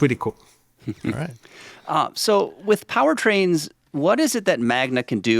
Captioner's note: chuckles